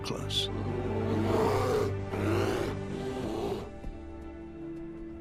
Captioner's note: bears growl at each other